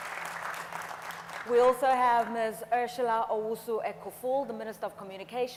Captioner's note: audience applauds